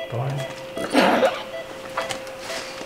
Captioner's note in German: Röcheln